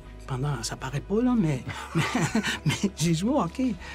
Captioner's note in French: rires